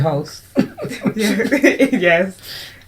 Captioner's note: laughter